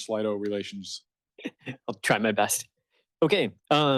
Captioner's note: chuckles